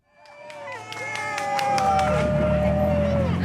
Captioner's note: cheering and applause